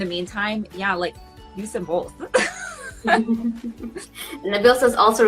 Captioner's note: laughs